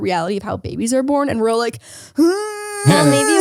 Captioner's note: groans